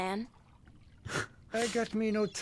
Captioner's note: laughs